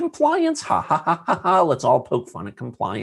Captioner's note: laughing